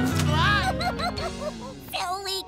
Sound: laughing

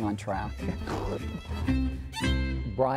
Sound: laughs

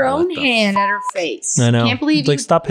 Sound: beep

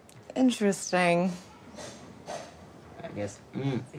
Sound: sound of Hammer In The Distance

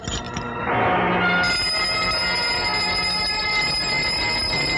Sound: bells

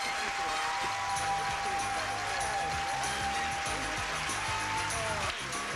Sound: audience applauding

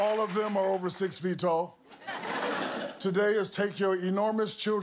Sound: applause

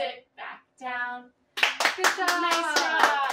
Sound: clap

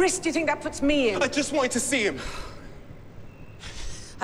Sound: sighs

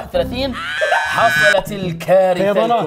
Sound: breaking down

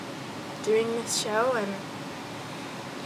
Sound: none

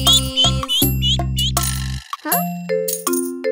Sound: ducky quacks

